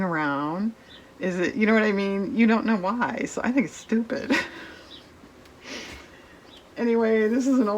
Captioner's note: laughs